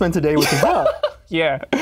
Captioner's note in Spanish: ríe